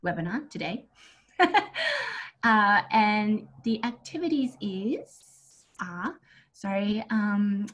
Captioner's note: laughs